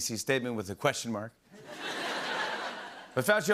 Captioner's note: laughter